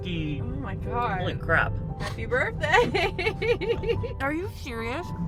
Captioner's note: laughs